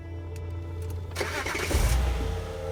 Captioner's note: starting car